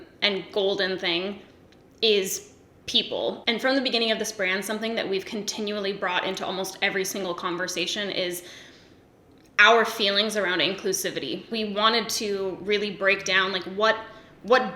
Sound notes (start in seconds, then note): none